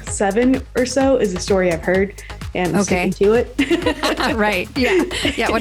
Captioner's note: laughs